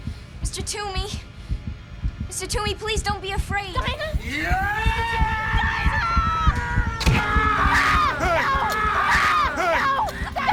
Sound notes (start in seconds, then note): 5.3 screaming; 5.9 grunting, Screaming; 5.9 screaming